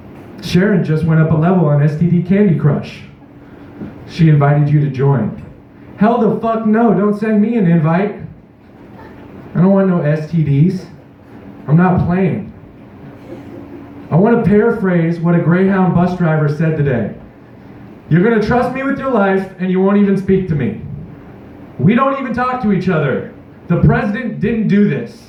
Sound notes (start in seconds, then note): 8.8 distant laughing; 13.2 distant laughter